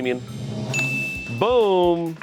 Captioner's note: bell dings